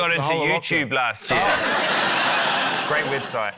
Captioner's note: laughter